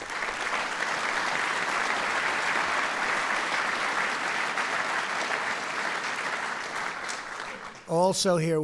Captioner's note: applause